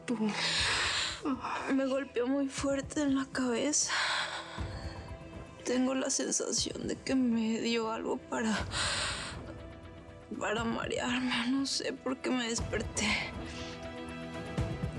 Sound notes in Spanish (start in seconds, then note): 0.0 solloza; 8.6 exhala